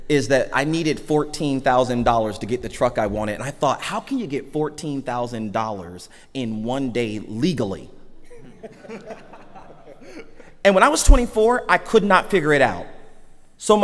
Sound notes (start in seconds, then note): 8.3 audience laughs